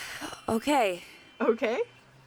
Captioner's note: sigh